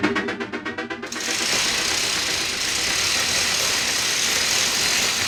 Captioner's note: electronic whirring; metallic gate rattling